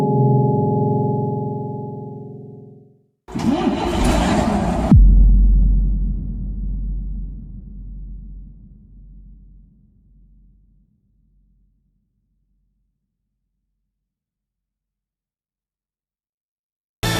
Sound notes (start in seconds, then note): 0.0 minecraft suspense sound; 3.3 man d2866 luh 20 engine starting up sound